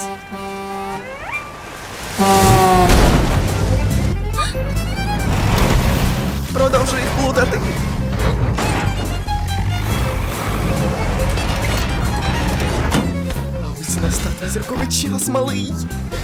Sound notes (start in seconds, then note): 0.2 car horn; 4.2 gasps